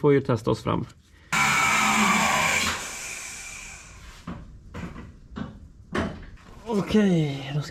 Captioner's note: drilling